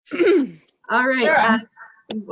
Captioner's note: clearing throat